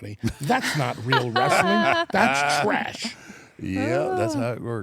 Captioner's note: laugh